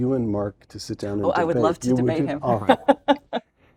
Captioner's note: laugh